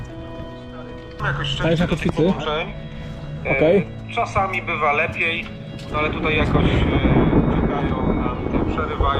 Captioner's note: thunder storm in the background